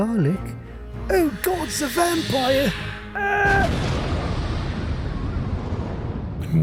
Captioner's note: vampire fucking explodes